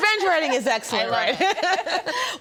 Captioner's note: laughs